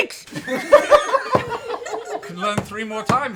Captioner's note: laughter